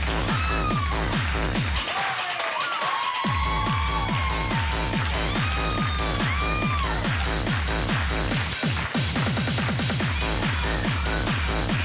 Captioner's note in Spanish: Gritos y exclamaciones; Palmadas al compás